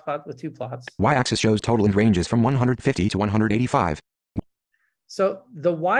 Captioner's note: voiceover